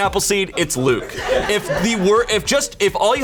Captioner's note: colleagues laughing